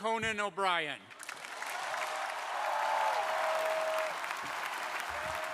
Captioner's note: crowd applauding